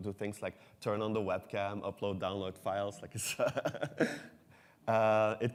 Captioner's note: laughs